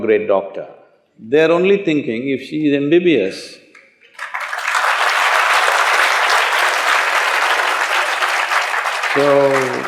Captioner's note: applause